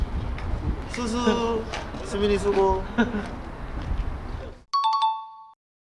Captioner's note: just laughing